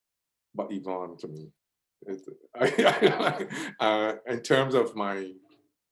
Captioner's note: laughs